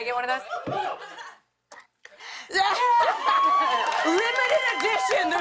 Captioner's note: laughter